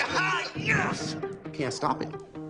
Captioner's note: excited yelling